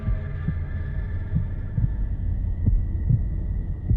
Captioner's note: heart beating